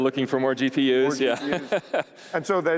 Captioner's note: laughing